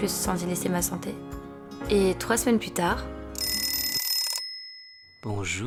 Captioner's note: dring